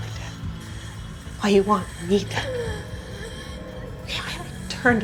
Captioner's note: Lenora wheezes